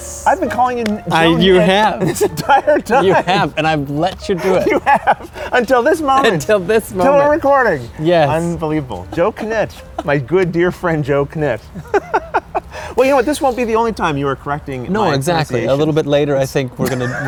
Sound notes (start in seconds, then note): 2.1 laughing; 6.4 laughing; 11.6 laughter